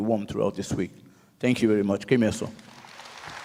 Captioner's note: speaks native language; audience applauds